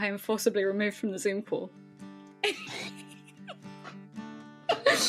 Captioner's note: laughter